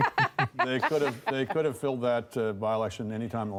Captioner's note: laughter